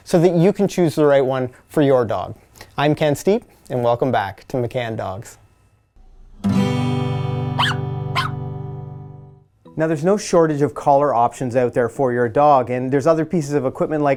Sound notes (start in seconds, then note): 6.4 guitar strums; 7.6 dog barks